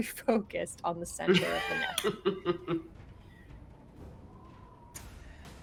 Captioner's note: laughs